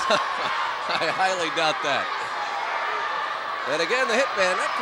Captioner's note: laugh